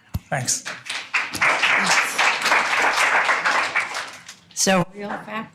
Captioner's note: audience applauding